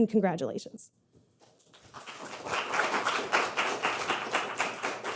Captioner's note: audience clapping